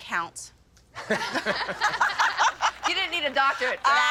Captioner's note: laughter